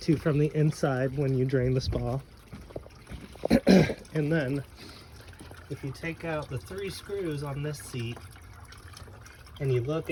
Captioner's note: clears throat